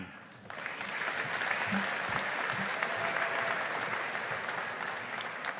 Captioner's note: audience applauding